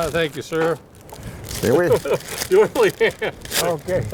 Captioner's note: laughter